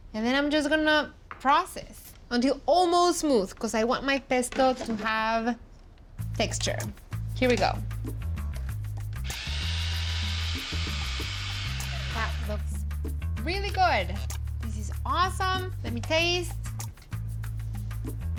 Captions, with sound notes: And then I'm just gonna process until almost smooth, 'cause I want my pesto to have texture. Here we go. [Whirring] [Whirring stops] That looks really good. This is awesome. Let me taste.